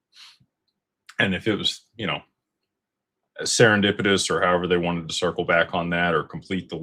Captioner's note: snorts